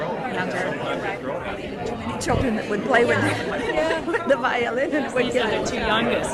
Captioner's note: laughs